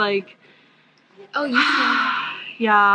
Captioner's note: sigh